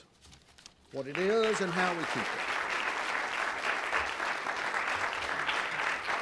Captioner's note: audience applauding